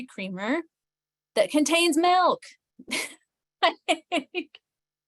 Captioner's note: chuckles